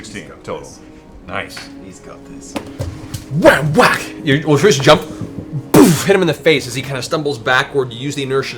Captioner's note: whack, whack